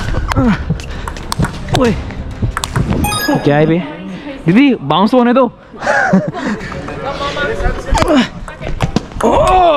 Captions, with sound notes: What was that man? Didi, let the ball bounce properly first [laughing]